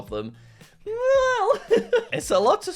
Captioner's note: chuckles